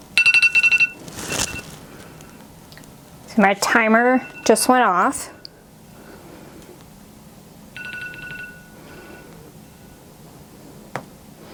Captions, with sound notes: (timer ringing) So my timer just went off. (timer ringing)